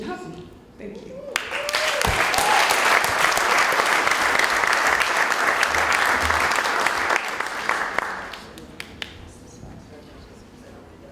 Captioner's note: applause